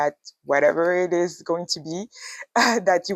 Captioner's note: chuckles